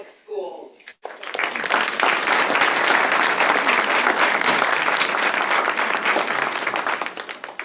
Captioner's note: applause